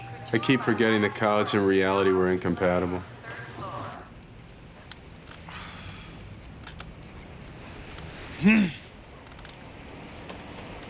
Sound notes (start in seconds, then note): 5.3 sighs; 8.4 clears throat